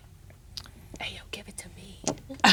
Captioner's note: whispers